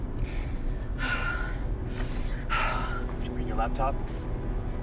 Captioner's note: sighs